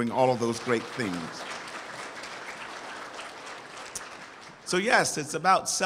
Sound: audience applauds

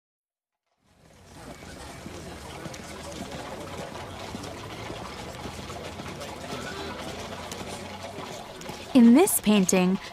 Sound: street noise

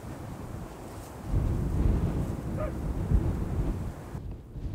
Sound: wind blowing

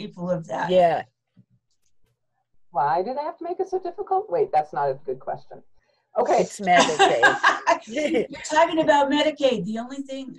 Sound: laughter

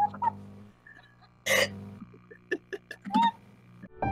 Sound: awkward chuckles

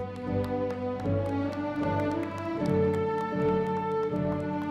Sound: audience applauding

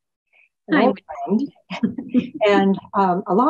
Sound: laughs

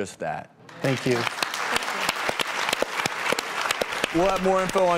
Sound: applause

